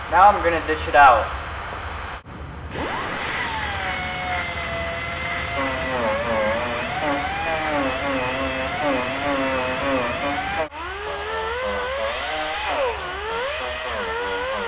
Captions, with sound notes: - Now, were gonna dish it out. (grinding noises)